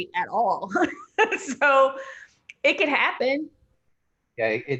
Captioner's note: laughing